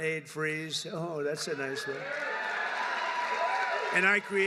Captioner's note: applause